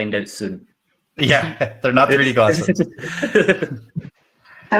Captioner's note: laughs